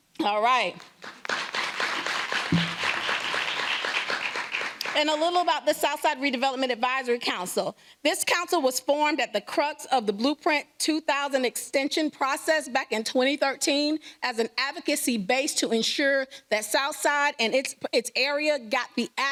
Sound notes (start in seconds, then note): 5.0 applause